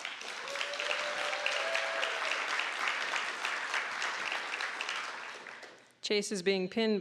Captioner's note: applause